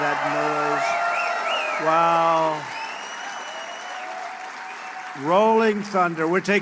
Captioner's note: applause